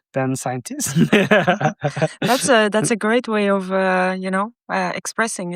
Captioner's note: laughing